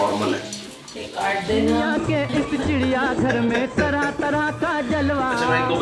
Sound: chattering and Laughing

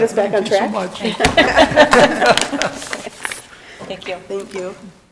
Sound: people laughing

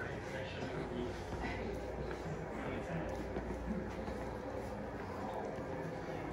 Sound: ambient hissing drowns out

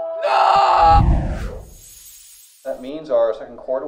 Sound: air whooshing

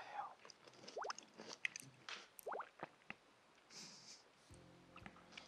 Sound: sound of him eating

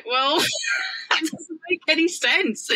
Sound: laughs

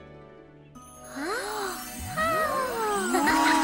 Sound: gasps; Pinkfong chuckles

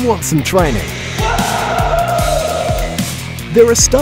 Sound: screams

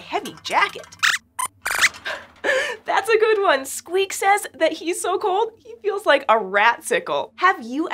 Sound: squeaks squeaks

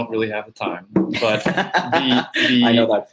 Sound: laughing

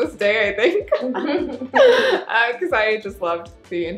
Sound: women laughing

